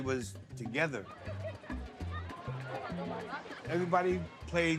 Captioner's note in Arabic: أطفال يتحدثون